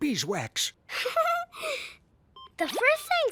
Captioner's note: giggling